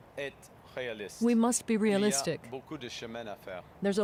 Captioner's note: speaking French